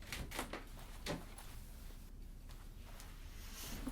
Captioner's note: door clicking